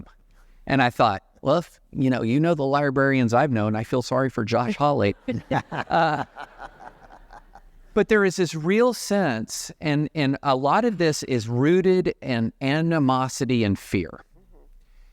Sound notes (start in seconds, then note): 5.1 laughter